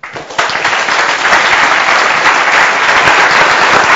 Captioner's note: audience applauds